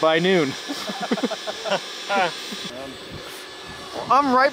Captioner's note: chuckling